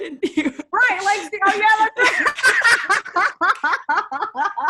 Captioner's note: laughs